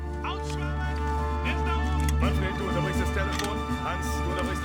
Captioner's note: speaking german